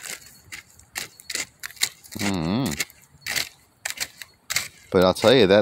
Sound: stick digging around in the hot embers

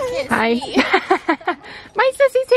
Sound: laughs

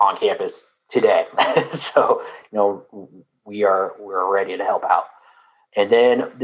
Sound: laugh

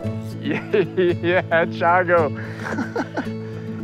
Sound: laughing

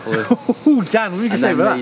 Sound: laughing

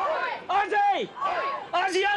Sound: crowd

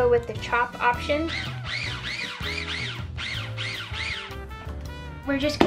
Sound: food processor whirring

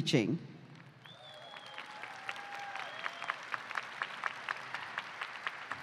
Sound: applause

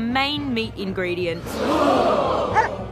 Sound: gasping

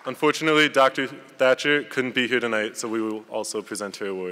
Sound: none

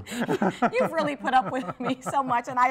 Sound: laughs

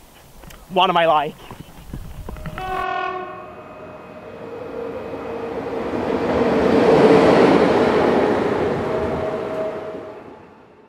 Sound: sounds of horn and train passing

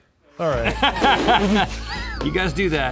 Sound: all laughing

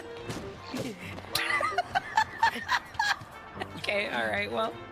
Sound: laughing

